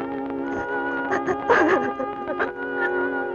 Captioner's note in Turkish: Ağlama sesleri